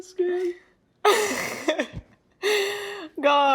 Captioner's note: laughs